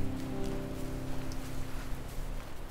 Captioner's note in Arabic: موجات الرياح والمحيطات